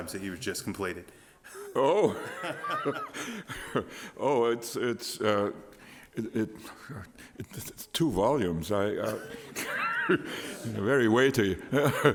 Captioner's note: laughter